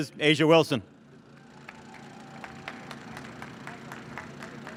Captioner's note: audience claps